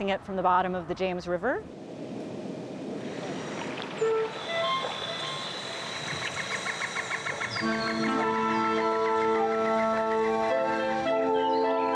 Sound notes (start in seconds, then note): 3.0 birds chirping; 4.2 gentle instrumental music